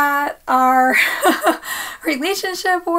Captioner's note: laughs